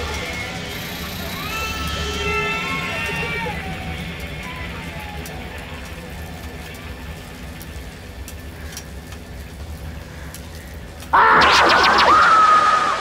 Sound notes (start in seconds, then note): 1.4 screaming and crying echoes; 5.2 the fire crackles; 11.1 Freddy and Tina screams